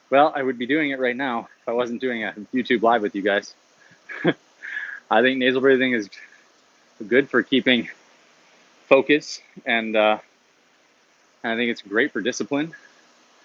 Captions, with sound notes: Well, I would be doing it right now. If I wasn't doing a YouTube live with you guys. (chuckles) I think nasal breathing is good for keeping focus. And I think it's great for discipline